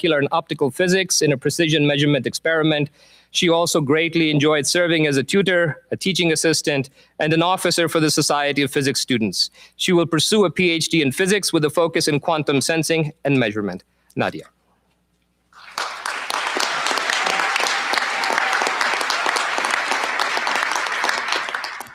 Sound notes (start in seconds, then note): 15.5 applause